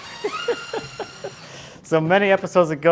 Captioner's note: laughing